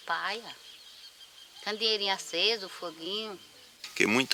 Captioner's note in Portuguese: Canto de pássaros